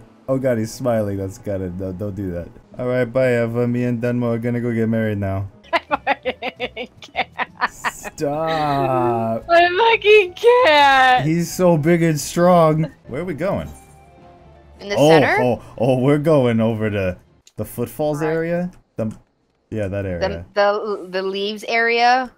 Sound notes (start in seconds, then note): 5.7 laughing